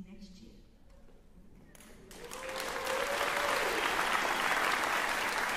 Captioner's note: applause